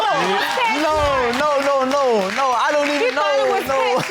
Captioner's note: audience applauding; laughs